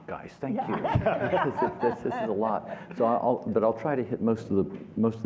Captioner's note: laughter